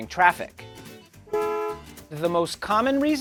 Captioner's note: car horn honking